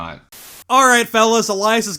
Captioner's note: static